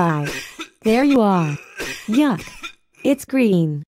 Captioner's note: cough cough